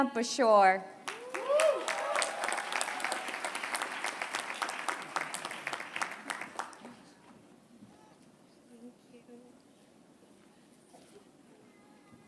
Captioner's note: applause